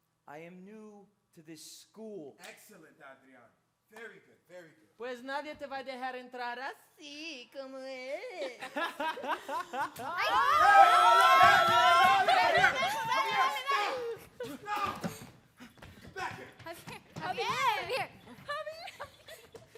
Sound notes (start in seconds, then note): 5.0 speaks in Spanish; 8.4 students laughs; 10.1 students screaming